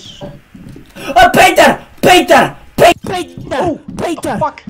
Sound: inhales

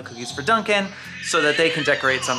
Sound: baby noises

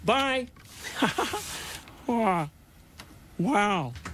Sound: laughs

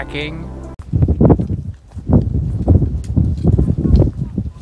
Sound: wind gushing

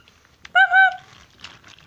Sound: henry whistles

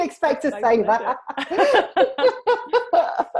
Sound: laughs

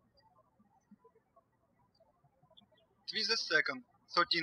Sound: birds chirping

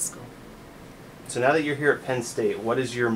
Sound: voiceover

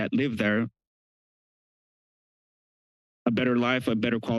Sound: pause

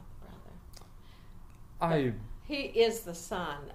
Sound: quietly

